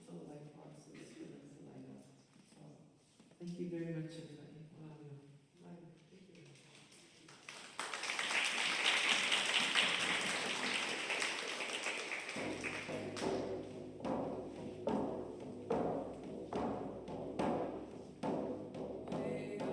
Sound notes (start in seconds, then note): 9.7 applause; 11.9 drumming starts